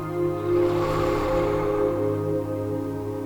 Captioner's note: breath